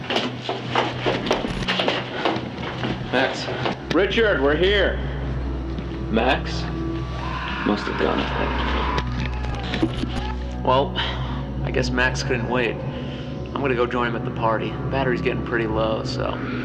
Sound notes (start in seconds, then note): 0.0 the sound of walking on the stairs; 7.1 scary sounds; 16.4 scary sounds